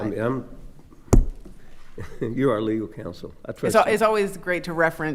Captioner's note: chuckles